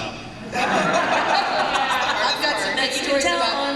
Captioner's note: laughter